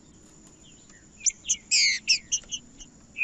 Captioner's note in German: trinca ferro cantando